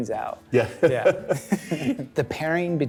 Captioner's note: laughing